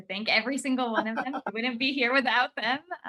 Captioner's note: laughs